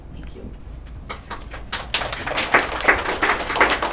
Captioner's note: applause